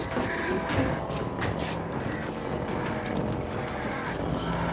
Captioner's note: ghouls groaning, wheezing